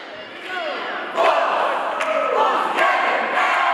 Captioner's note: audience and team chanting